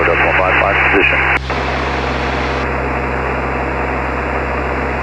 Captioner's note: airplane engine roaring